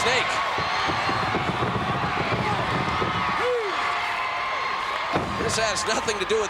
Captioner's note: applause